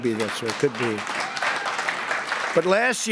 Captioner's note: laughter and applause